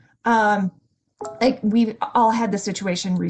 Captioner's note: notification chimes